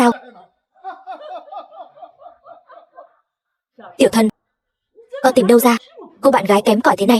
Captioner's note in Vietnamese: Tiếng cười